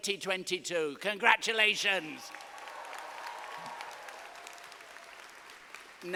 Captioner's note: audience applauding